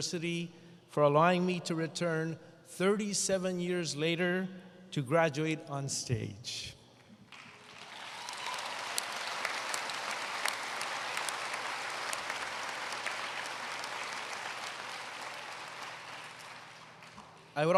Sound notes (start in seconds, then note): 11.3 applause